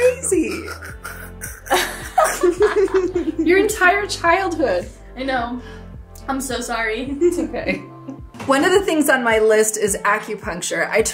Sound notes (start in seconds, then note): 0.3 both laughing